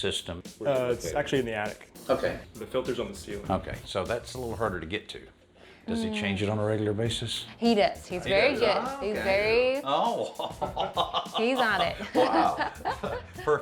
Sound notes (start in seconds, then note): 10.2 chuckles; 10.2 laughs